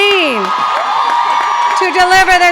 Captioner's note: audience cheering and clapping